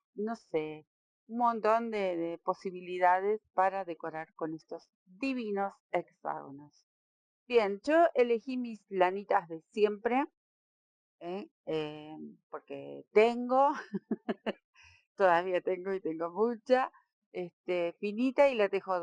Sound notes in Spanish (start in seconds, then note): 13.7 risas